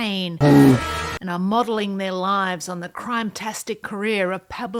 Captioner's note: bear growl